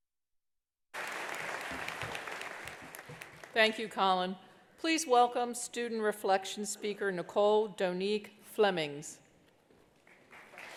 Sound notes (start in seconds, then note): 0.9 attendees applauding